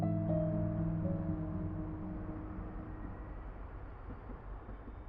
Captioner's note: distant traffic